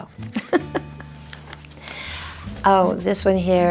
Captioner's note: Priscilla laughs